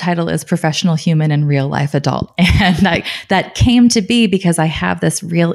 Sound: laughing

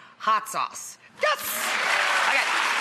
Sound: applause

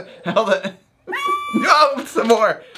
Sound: dog yelps

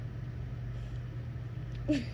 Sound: chuckle

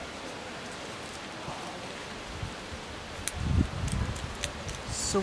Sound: wind blowing; metal lock twisting

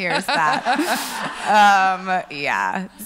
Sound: laughs

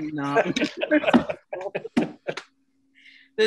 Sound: laughs

